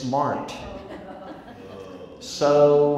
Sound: crowd laughs and groans

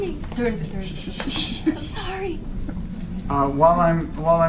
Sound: shushes

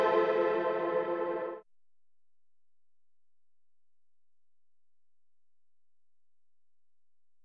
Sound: no audio

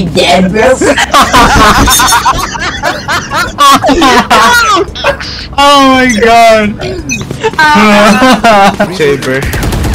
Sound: everyone laughing

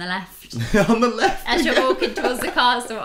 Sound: laughing

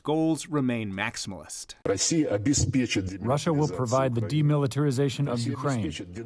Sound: through translator

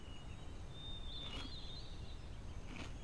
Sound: birds tweeting; loud chewing

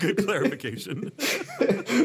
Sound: laughing; laughs

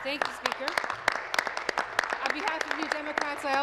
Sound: applause

